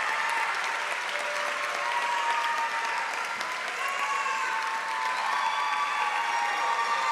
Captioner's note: applause; cheering; applause and cheering